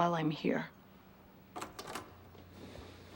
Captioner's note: front door opens